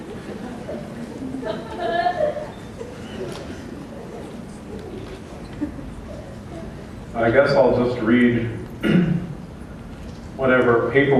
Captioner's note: laughter